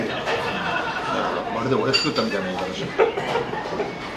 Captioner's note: laughs